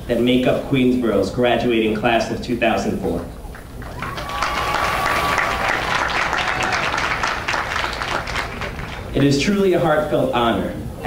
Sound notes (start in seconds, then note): 3.5 audience cheering and applauding